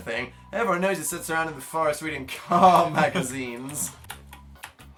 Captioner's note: both laugh